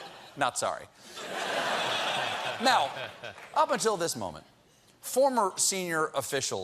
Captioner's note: laughter